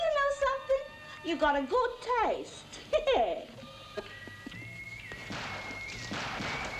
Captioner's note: chuckles